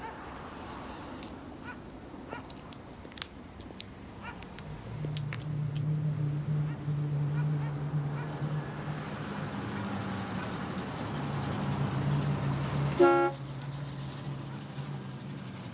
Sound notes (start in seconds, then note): 2.1 high heels clicking; 9.4 car engine rumbling; 12.9 horn honks